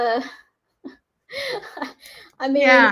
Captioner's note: giggles